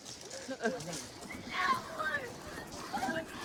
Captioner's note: yelling